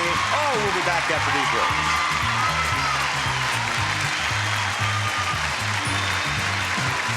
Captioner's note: audience applauding; upbeat music